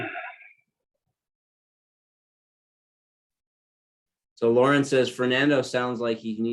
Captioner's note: cough